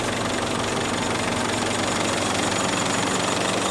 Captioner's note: engine Revs